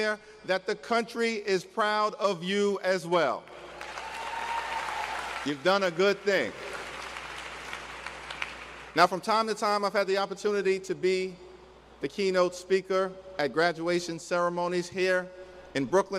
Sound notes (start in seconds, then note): 3.5 cheers and applause; 8.0 applause